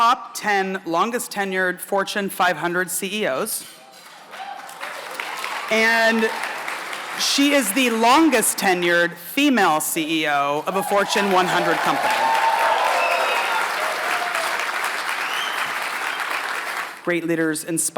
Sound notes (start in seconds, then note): 3.9 applause; 10.7 applause